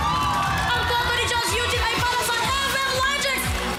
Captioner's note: audience cheering